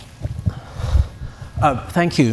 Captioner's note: audience Applauding